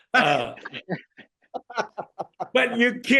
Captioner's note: laughter